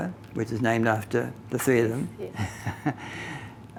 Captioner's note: laughing